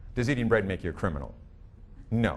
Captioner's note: none